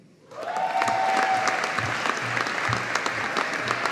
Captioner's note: audience applauding